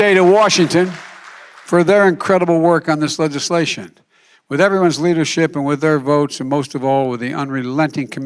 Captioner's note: applause